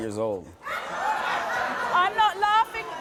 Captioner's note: audience members laughing